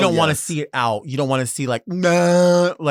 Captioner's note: groans